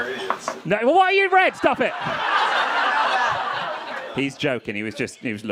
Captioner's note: crowd laughing